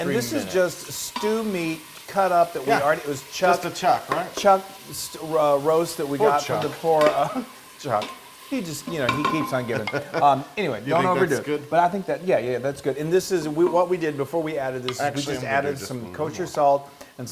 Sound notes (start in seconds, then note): 8.1 laugh